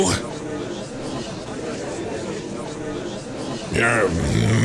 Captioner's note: gallery chattering